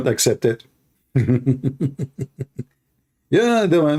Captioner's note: Ketawa